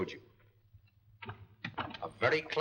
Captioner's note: door closes